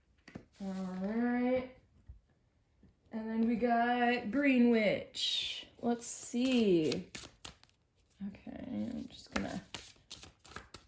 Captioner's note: shuffling